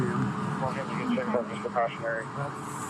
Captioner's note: radio chatter